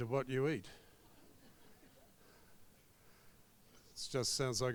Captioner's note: crowd laughs